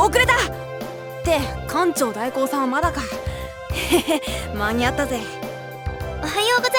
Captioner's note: chuckle